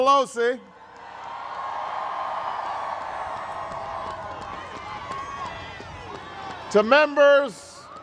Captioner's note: crowd cheers